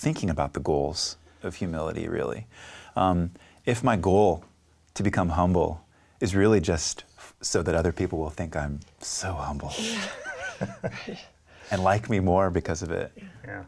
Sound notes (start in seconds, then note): 9.8 laughing